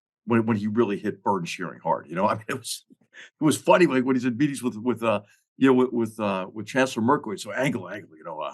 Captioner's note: laugh